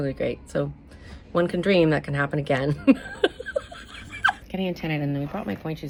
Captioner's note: laughs